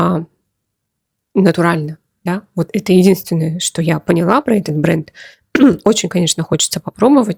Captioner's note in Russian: откашливается